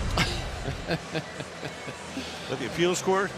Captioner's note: laughs